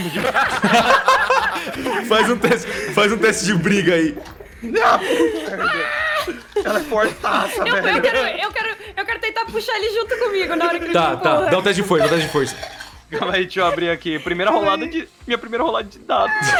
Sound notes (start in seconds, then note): 0.0 everyone laughs; 4.3 wheezing